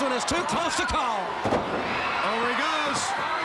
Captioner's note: crowd cheering